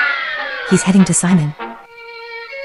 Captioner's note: whispering